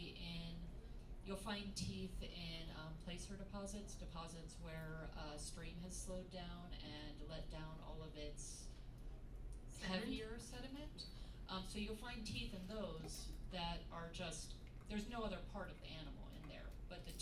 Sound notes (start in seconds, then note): none